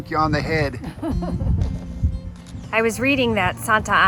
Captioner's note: laughs